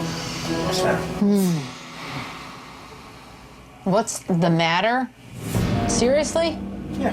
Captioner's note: groans loudly